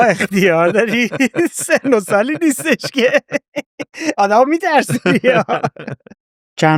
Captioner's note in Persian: خنده